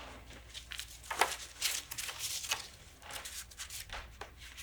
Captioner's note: papers rustling